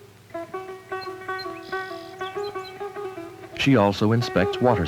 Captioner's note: well water drawn up, metal squeaking